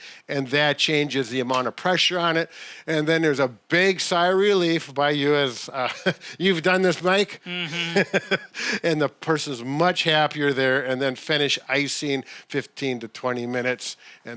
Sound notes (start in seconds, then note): 5.8 chuckles; 7.4 laughs